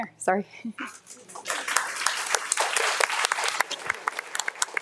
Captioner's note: audience applauding